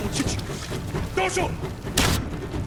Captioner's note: non-english speech; gunshots